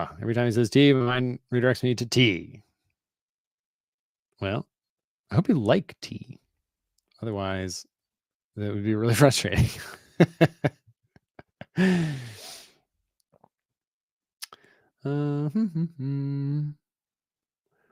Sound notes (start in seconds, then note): 9.6 chuckles; 15.1 hums